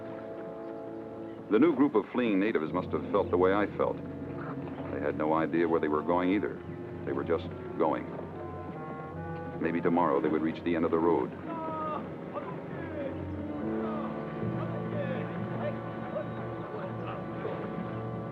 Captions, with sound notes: The new group of fleeing natives must've felt the way I felt. They had no idea where they were going either. They were just going. Maybe tomorrow they would reach the end of the road. (people chattering)